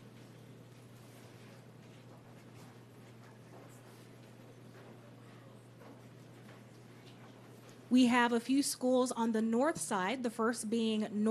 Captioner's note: applause